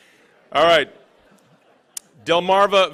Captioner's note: laughing